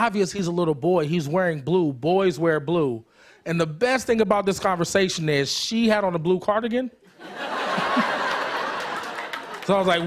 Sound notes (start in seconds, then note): 7.1 laughter